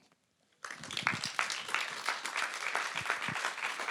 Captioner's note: applause